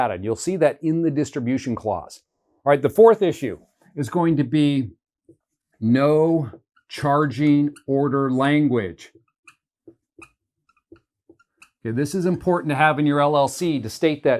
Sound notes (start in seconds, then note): 6.8 marker squeaking